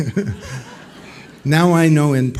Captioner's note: laughs; laughter